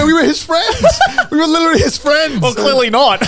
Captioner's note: laughing